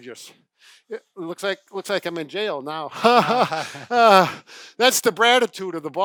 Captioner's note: laughter